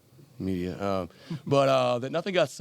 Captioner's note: Geno laughing